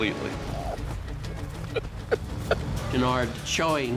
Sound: chouinard weeping

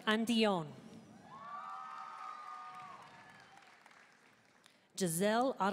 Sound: audience cheering and applauding

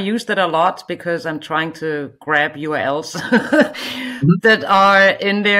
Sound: chuckles

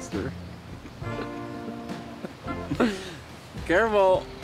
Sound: laughing

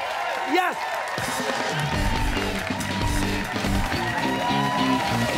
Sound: cheers and applause

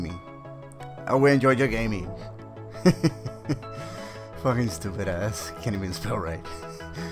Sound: snickers

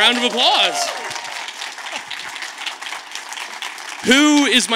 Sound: audience claps

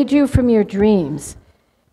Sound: none

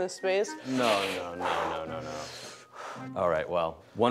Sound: breathing heavily

